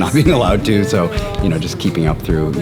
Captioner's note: chuckles